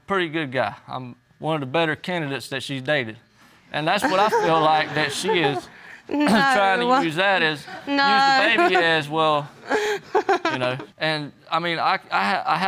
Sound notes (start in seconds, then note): 4.0 scoffs and laughs; 7.6 laughs